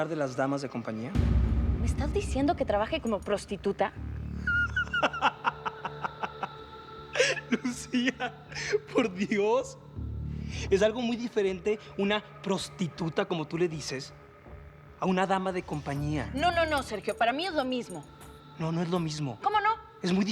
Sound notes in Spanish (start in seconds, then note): 4.4 Carcajadas